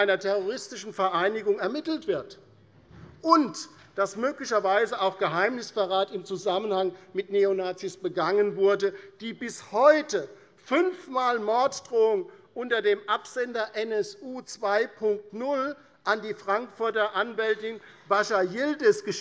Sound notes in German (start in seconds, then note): none